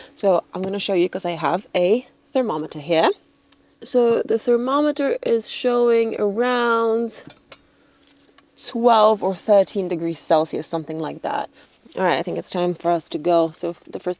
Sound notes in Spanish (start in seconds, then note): none